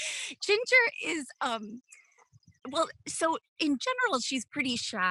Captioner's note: laughs